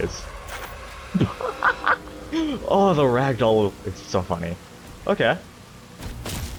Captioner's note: kiddish laughter